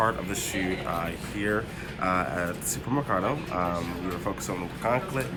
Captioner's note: none